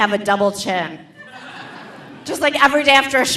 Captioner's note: audience laughing